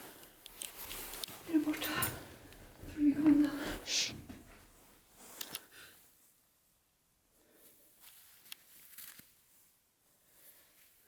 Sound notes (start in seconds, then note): 8.2 complete silence